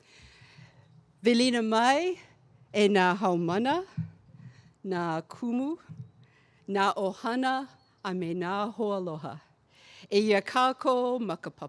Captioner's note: speaking olelo hawaii